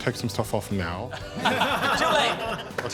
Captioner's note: all laughing